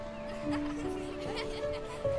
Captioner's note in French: rires